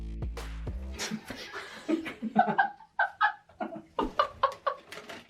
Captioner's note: both laughing